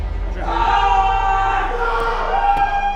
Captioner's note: intense music; players cheering